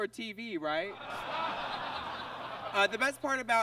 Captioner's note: audience laughs